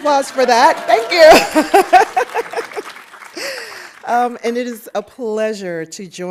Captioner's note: audience applauding